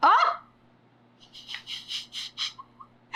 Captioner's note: laughs